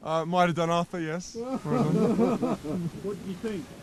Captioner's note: photographers laughing; voiceover